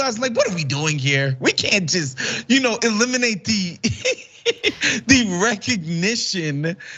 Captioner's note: laugh